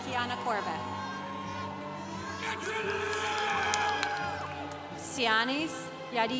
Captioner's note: congregation applauding